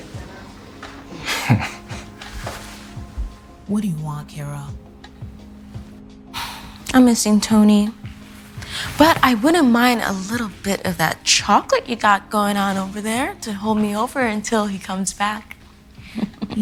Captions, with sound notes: (Kingston laughing) - What do you want, Kira? - (sighing) I'm missing Tony. But I wouldn't mind a little bit of that chocolate you got going on over there to hold me over until he comes back. (laughing)